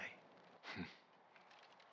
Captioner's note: laugh